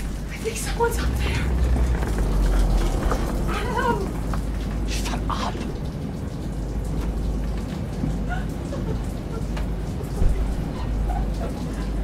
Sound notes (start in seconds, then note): 0.4 desperate whisper; 2.4 structural groan; 7.4 water leaking/storm outside; 10.4 more rubbing on glass